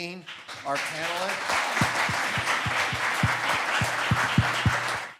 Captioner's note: audience applauds